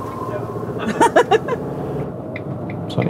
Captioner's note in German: Sie lacht